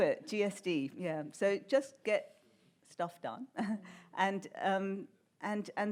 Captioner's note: laughs